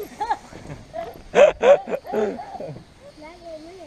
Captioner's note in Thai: เสียงหัวเราะ